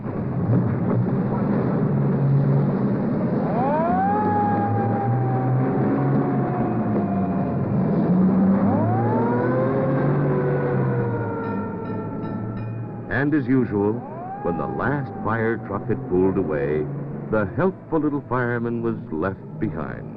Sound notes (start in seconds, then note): 0.2 engines roaring; 3.4 siren wailing